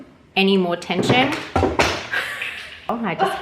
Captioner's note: bottle bangs on floor; chuckles